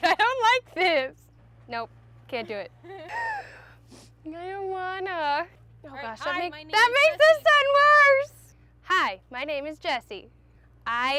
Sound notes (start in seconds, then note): 2.8 laughs